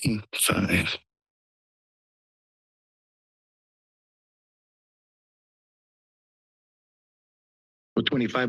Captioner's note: silence